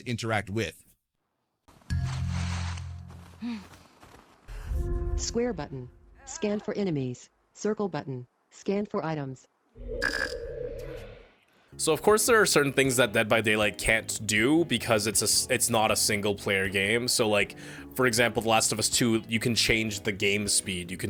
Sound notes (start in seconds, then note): 1.9 in-game audio cue; 4.4 in-game narration